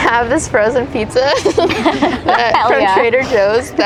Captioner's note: both chuckle